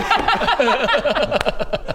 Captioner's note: laughs